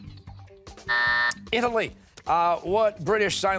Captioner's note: timer